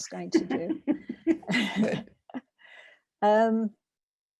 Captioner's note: both laugh